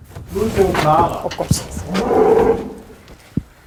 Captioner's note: moo